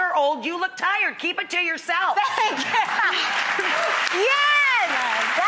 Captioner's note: audience cheers